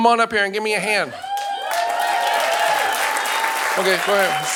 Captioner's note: audience applauding